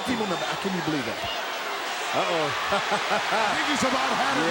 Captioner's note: Jim chuckling